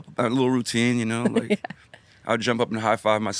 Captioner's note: chuckles